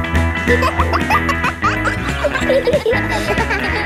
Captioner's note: kids laughing; pop music playing